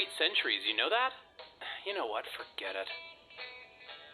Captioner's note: sigh